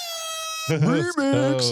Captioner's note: laughter